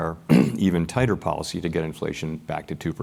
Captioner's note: cough